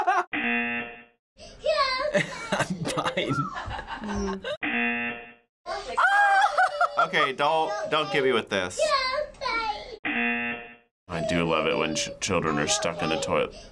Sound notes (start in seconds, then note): 0.3 buzzer; 4.6 buzzer; 10.0 buzzer